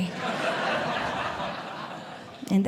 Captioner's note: audience Laughing